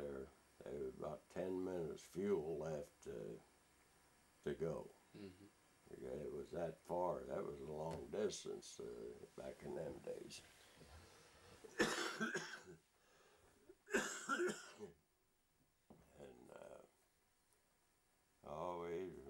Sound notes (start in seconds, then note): 16.0 coughs